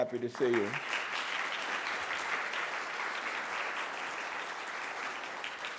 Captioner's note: applause